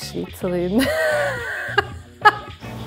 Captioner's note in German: lacht